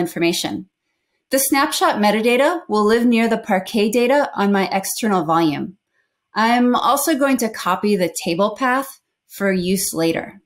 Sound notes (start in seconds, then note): none